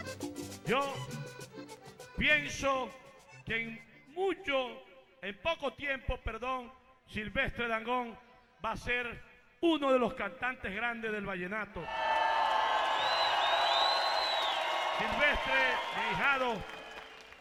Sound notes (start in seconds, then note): 13.5 crowd cheering